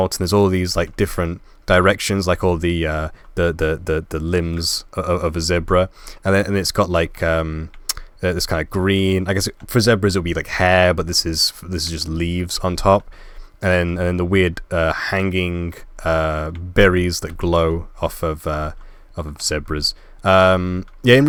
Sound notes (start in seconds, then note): none